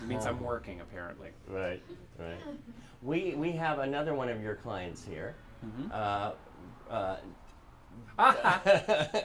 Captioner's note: laughter